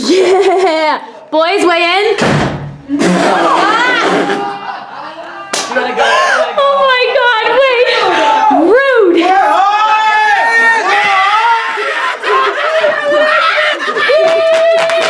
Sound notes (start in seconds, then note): 5.5 screams; 11.5 screams